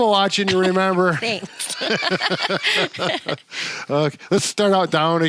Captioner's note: laughs